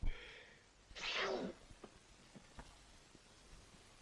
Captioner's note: man sneezes